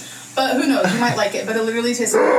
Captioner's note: laughs